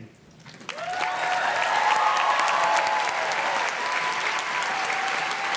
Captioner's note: audience cheers and claps